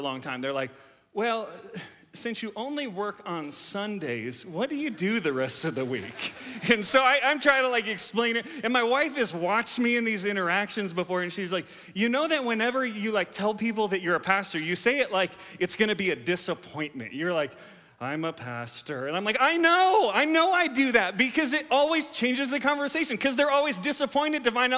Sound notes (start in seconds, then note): 4.8 audience laughs